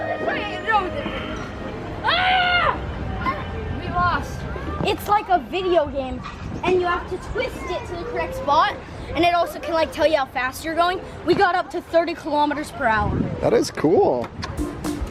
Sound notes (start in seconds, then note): 2.7 yells; 14.6 bright music